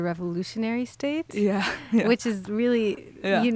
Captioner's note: laughs